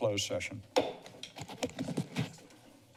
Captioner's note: gavel tap; rustles